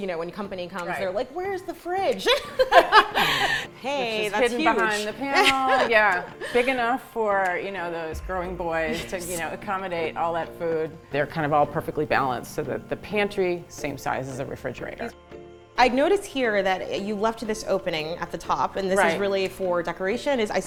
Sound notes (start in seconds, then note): 2.2 laughing